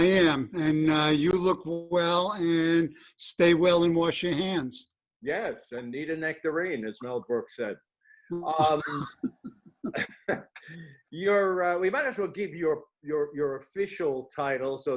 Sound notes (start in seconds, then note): 8.6 laughter